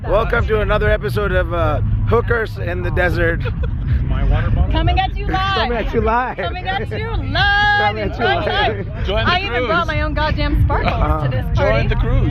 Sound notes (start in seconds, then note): 5.2 laughs